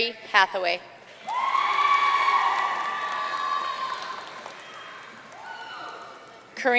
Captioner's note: audience cheering and applauding